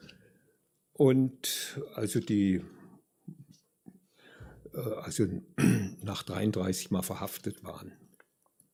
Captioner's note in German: räuspern